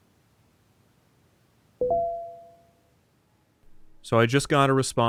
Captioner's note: notification alert